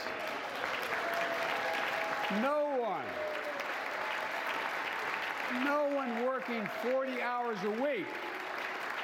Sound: applause

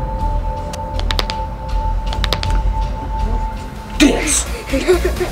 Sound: cracks neck; cracks knuckles; dance music

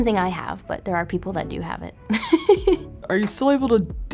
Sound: giggles

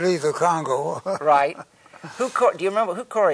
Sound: laughs

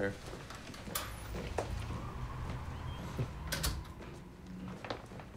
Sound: door opening and closing

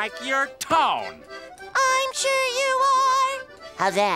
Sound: higher-pitched

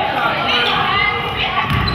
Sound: none

